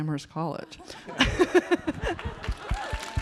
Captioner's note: audience laughing; audience clapping